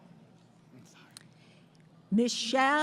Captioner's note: whispering